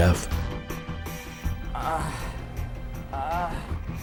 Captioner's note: groaning